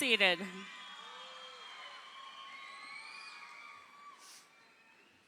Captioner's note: crowd cheering